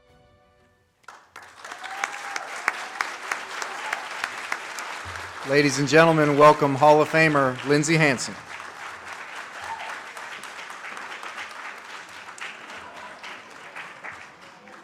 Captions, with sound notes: (audience cheers) - Ladies and gentlemen, welcome Hall of Famer Lindsay Hansen. (audience claps)